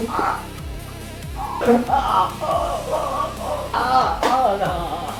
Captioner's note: groaning; suspense music playing